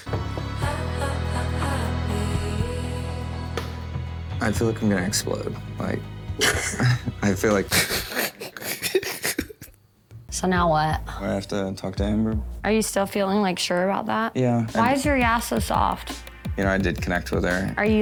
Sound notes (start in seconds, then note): 0.0 romantic Music; 6.4 laughs